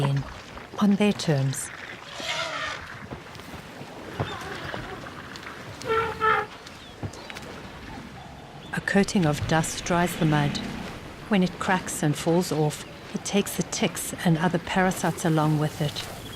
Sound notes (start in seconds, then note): 1.6 animals calling; 2.1 trumpets; 16.2 rumbling